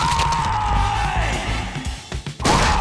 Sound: wood breaking; character screaming

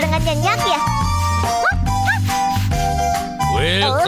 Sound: barking

